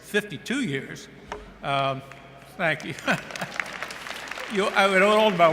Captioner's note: laughing